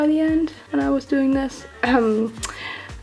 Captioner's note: cough